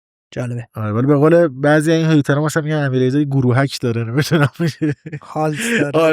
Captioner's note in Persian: خنده